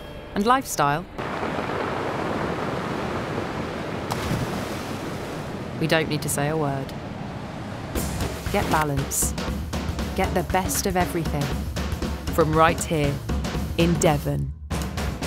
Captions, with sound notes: And lifestyle? [the sound of the sea] We don't need to say a word. Get balance. Get the best of everything. From right here in Devon.